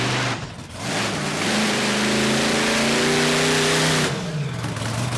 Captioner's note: monster truck engine roars